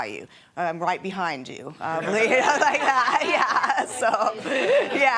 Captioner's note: laughing